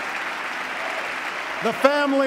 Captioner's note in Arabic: تصفيق